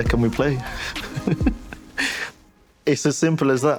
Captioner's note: laughs